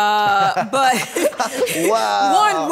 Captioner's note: laughs